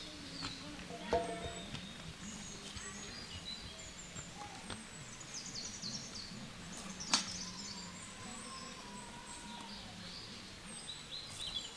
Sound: sound of nature

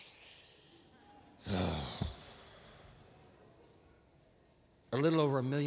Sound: inhales sharply; groans

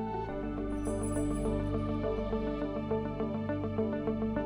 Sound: bells jingling

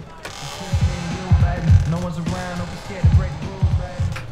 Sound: door creaks open

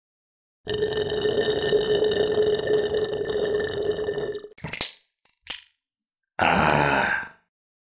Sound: computer continues to drink something out of a straw

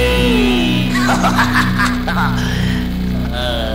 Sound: Pumpkin Jack laughs

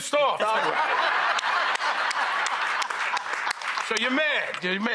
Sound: audience laughing

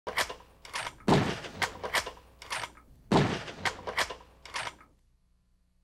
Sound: chambering Ammo and Shots

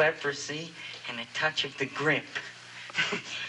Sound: giggles

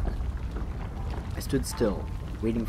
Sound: the ground rumbles

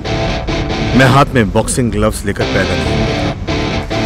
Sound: Rajbir on radio

